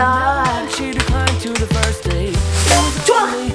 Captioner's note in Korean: 짝짝짝짝짝짝